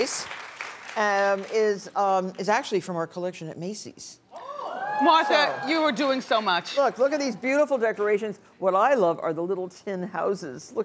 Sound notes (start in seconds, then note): 3.9 audience gasps